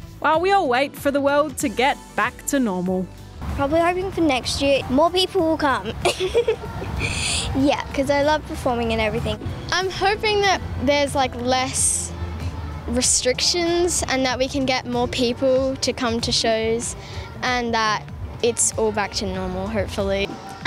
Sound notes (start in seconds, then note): 6.0 laughs